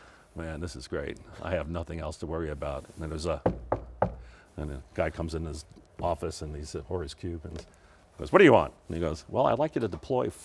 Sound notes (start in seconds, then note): 3.4 knocks